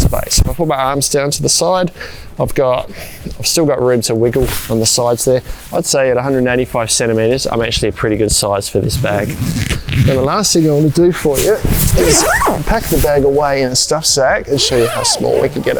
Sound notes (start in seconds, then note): 8.9 zipper undoes; 11.7 zipper undoes; 14.5 bag rustling; 14.5 zipper does up